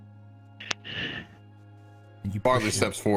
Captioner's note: Krel brave inhale